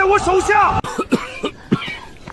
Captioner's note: cough, cough, cough